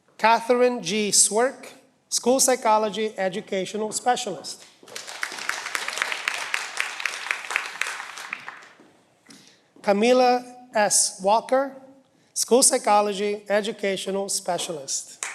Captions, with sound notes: Katherine G Swierk School Psychology Educational Specialist. (cheering) Camilla S Walker, School Psychology Educational Specialist.